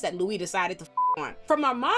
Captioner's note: beep